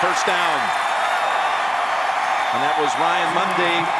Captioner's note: crowd cheers